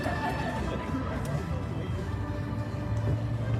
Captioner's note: audience laughs